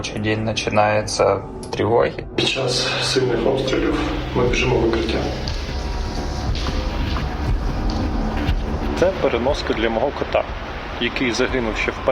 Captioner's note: speaking non-english language